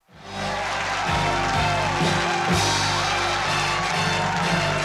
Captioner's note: applause